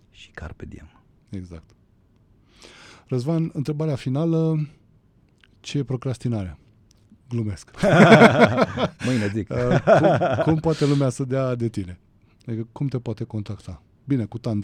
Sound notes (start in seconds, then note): 7.8 laughter